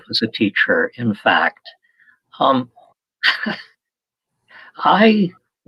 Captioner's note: laughter